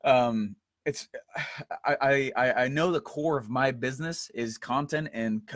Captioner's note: sighs